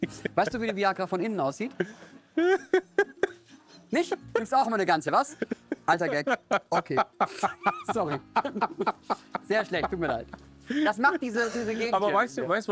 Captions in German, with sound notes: Weißt du, wie 'ne Viagra von innen aussieht? (Er lacht.) Nicht? Nimmst auch immer 'ne Ganze, was? Alter Gag. Okay. Sorry. Sehr schlecht, tut mir leid. Das macht diese Gegend hier.